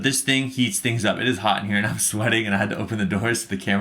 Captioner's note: laughing